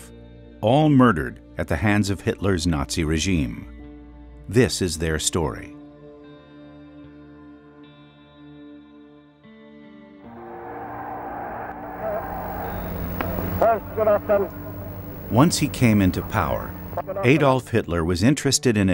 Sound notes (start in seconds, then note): 10.2 crowd cheering; 11.4 speaking German